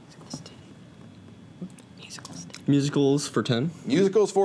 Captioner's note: whispers